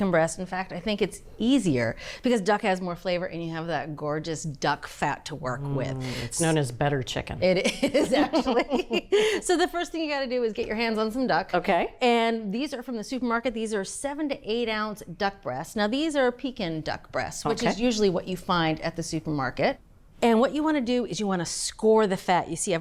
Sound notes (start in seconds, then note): 7.6 laughing